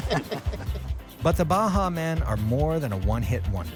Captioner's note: voiceover